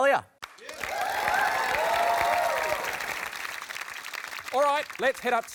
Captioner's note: applause